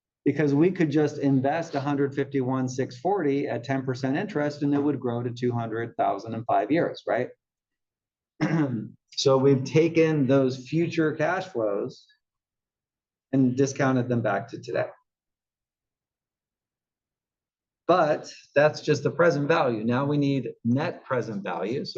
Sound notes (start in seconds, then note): 8.4 cough